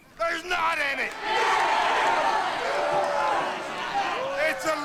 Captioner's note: crowd cheers